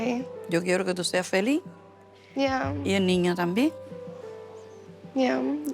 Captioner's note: speaking Spanish